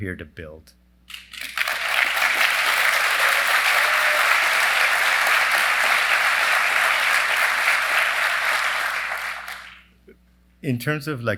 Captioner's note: applause